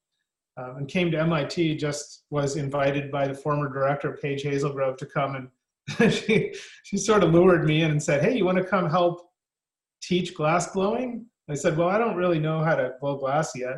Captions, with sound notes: And came to MIT, just was invited by the former director Page Hazlegrove to come and- [laughs] She sort of lured me in and said, "Hey you want to come help Teach glassblowing?" I said, "Well, I don't really know how to blow glass yet"